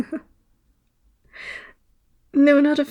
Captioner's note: laugh